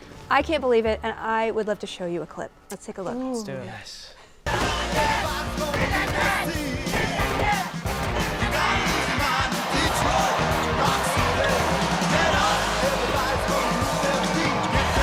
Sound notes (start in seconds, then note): 5.0 people screaming; 5.0 upbeat rock music